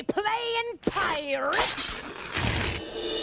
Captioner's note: slices page